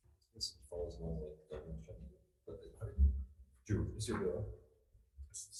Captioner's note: speaks faintly